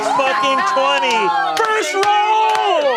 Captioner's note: players cheer